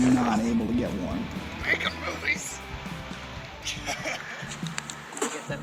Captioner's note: strained